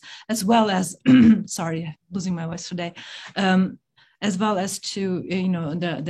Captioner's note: coughs